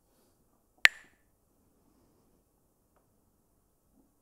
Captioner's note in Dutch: klakt met stokjes